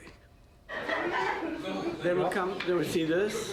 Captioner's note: background chatter